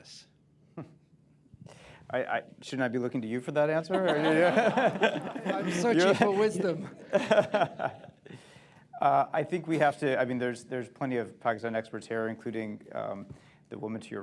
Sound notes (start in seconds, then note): 3.9 laughter, laughs; 7.5 laughter; 9.0 laughs